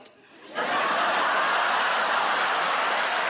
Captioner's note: audience laughing; audience applauding